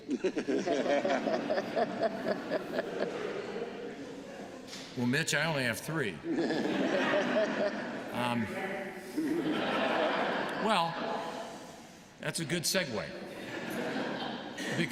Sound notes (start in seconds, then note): 0.0 laughter; 6.2 laughter; 7.6 off microphone; 8.6 laughter